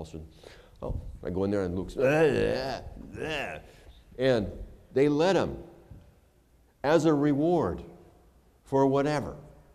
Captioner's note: groaning